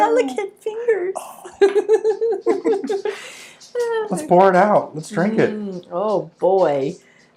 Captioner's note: laughing